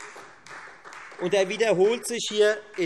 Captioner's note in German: Beifall Freie Demokraten und vereinzelt SPD